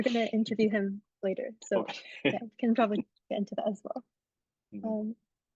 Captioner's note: laughs